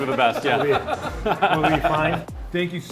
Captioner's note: laughing